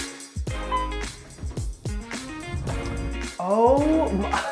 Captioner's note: upbeat music; elevator dings